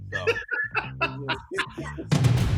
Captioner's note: all laughing; dramatic beat